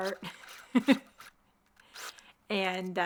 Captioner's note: laughs